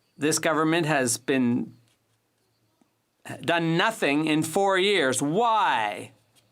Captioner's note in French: voix de l'interprète